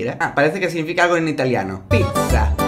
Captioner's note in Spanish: hablando italiano